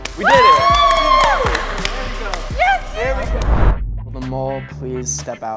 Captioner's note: cheering and clapping